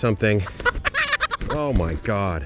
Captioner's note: orpington chirps